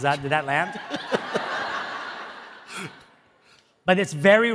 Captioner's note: audience laughing